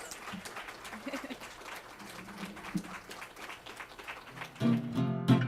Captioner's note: audience applause; music playing-- no dialogue